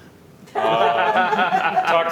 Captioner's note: laughter